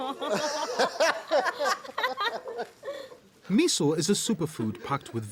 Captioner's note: laughter